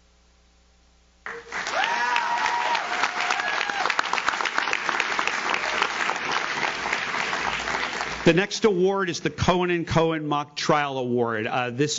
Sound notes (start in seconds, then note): 1.2 audience claps; 1.3 audience cheers